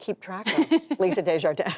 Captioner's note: laughter